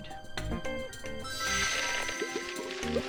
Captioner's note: magical chiming